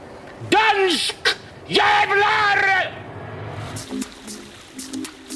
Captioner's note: said in Danish/Swedish